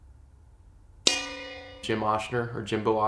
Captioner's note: bell dings